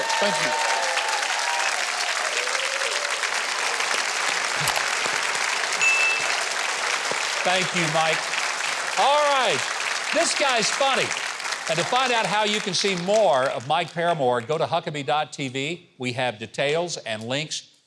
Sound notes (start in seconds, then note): 1.3 audience clapping; 5.8 ding